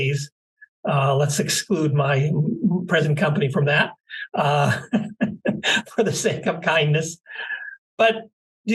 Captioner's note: laugh